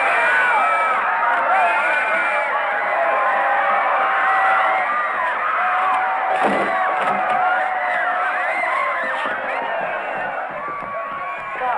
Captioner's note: cheering